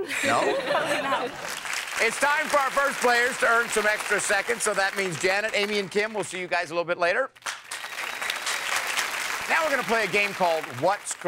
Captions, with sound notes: (audience laughing) -No? -Probably not. (audience applauding) -It's time for our first players to earn some extra seconds. So that means Janet, Amy, and Kim, we'll see you guys a little bit later. (audience applauding) Now we're gonna play a game called What's Correct?